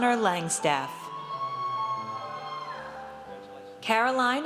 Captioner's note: audience cheers